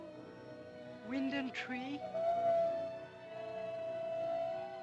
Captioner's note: wolves howling